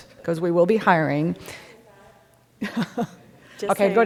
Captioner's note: speaking, obscured by echo; laughing